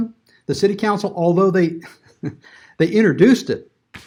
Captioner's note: laughs